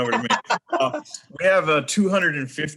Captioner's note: laughing